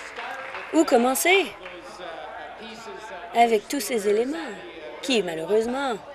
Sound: applause

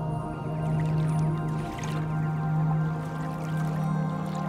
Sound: water ripples/sloshes

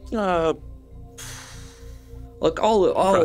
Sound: sighs

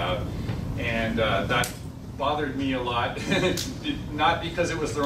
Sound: laughs

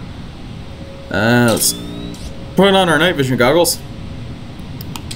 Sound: wince

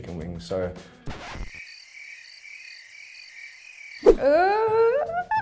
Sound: crickets chirping

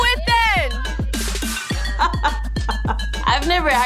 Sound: laughing

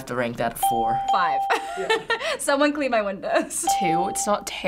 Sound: laughs

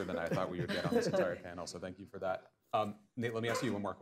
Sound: laughter

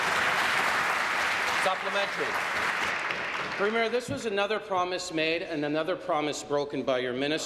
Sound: applause

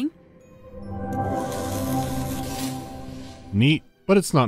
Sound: humming and crackling

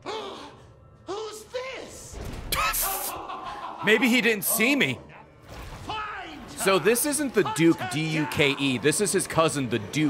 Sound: laughs

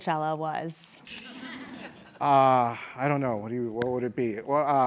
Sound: laugh

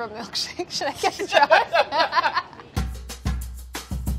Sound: both laugh; upbeat music

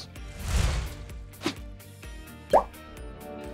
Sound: graphics whooshing

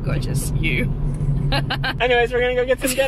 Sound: both laugh

